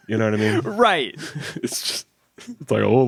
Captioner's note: chuckles